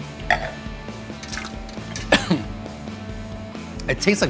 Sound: spits and coughs

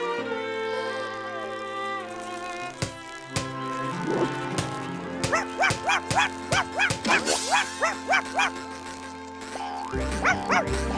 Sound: barking

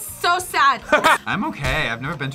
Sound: laughs

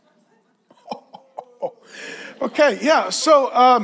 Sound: laughs

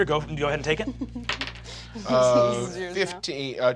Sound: Kristen chuckles

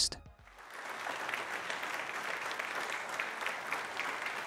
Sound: audience clapping

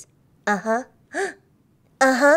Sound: gasps

